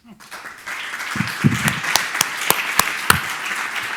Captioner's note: audience applauding